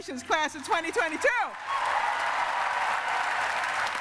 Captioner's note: cheering and applause